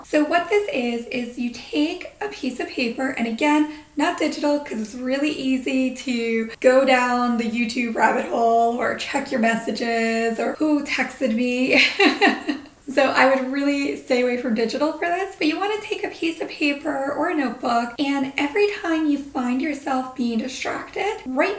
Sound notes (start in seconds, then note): 11.7 laughing